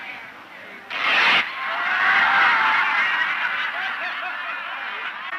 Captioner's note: audience laughs